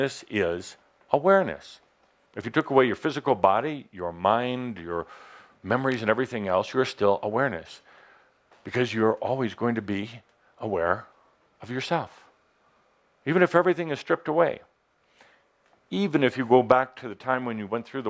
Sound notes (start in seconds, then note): none